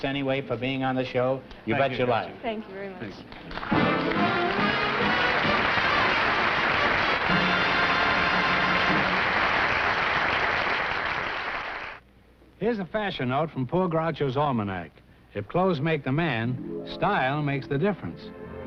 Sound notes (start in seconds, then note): 5.0 applause